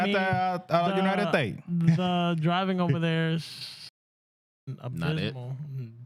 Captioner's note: speaking Spanish